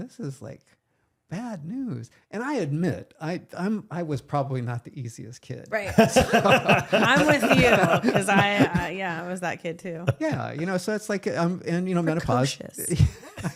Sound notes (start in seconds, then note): 5.8 laughing